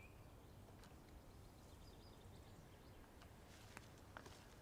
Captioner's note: birds chirping